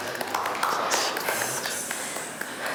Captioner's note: clapping